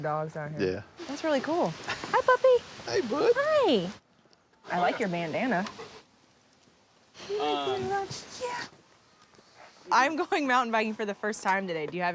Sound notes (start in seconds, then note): 7.9 dog sniffs